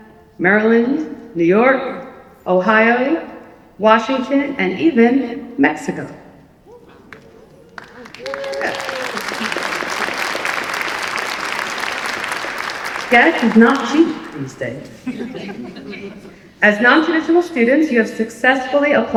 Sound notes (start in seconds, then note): 7.0 applause; 15.2 laughter